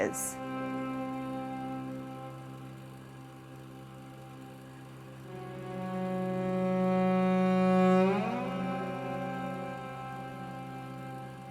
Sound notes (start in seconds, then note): 0.0 somber music; 3.3 film reel spinning